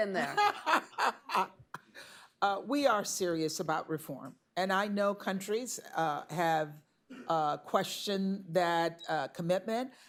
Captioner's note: laughs